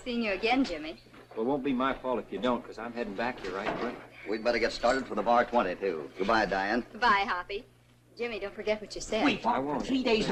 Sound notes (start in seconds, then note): none